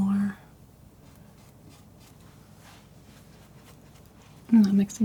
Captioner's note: silence